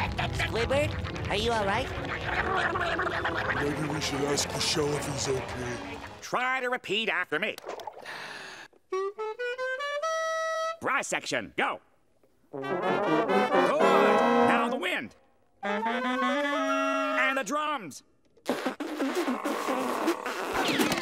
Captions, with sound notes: Squidward, are you alright? [grunting] Maybe we should ask the shell if he's OK. Okay, try to repeat after me. [clarinet playing] Brass section, go. [brass instruments playing] Good. Now the wind. [brass instruments playing] And the drums. [blowing]